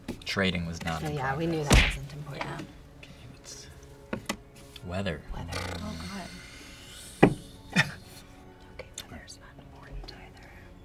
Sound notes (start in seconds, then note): 7.2 scoffs; 8.3 whispering